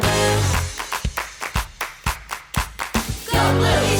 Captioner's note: rhythmic clapping; upbeat music